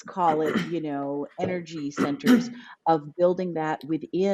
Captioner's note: clear his throat